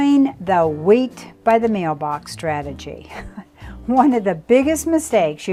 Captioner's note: laughs